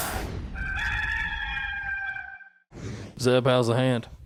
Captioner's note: rooster crowing